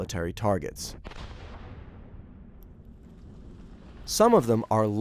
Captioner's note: bomb exploding